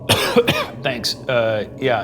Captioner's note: coughing